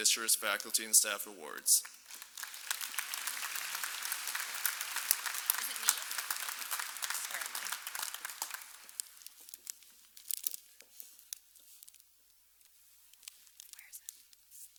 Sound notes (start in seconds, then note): 5.5 applause